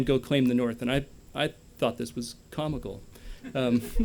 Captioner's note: laughter